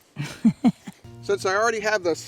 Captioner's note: woman laughing